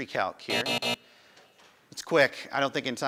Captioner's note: buzzing